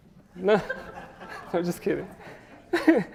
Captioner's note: audience laughs